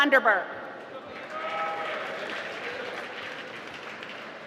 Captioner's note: applause